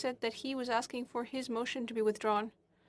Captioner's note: speaking in French